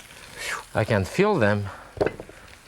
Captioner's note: exhales sharply; onions thumping